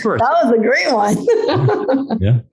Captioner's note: laughs